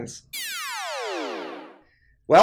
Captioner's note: electronic whooshing